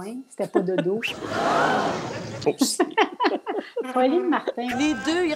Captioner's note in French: rires